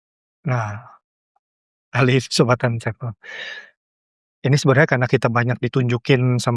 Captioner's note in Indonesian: terkesiap